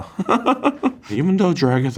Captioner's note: Kim laughs